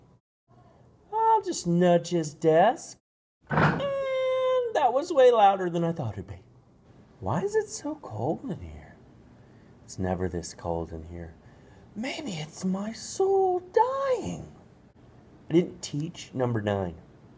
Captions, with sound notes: I'll just nudge his desk.. (thump) andddd that was way louder than I thought it'd be. Why is it so cold in here? It's never this cold in here. Maybe it's my soul dying. I didn't teach number nine.